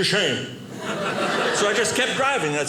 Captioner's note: audience laughing